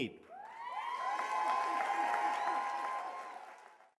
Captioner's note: cheers and applause